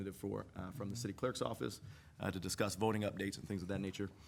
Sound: none

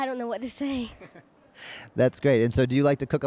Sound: laughter

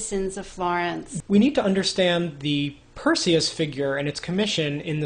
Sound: voiceover

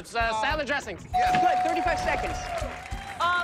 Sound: bell dings

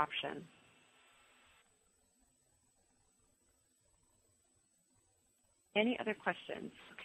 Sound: pause

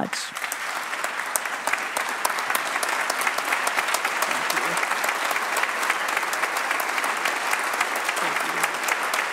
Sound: applause

